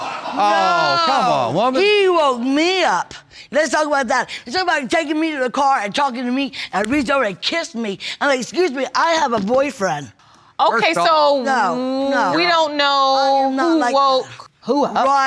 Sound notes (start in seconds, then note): 0.0 audience laughing; 7.9 pounds desk